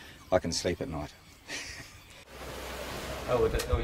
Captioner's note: laughs; concrete pours